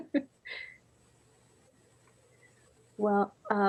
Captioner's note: laughs